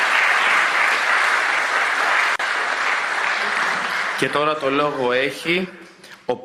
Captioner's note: applause